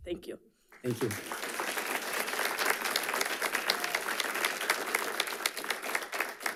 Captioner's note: audience applauding